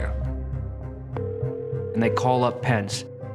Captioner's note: phone calling out